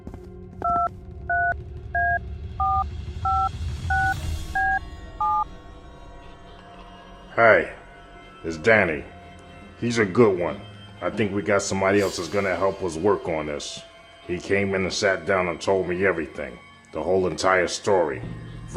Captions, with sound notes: (phone dials) - Hey, it's Danny. He's a good one. I think we got somebody else that's gonna help us work on this. He came in and sat down and told me everything, the whole entire story.